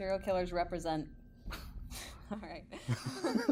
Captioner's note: chucking